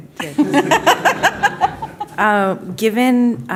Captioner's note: laughter